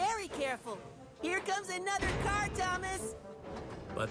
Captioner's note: none